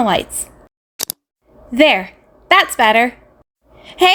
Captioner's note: lights flick on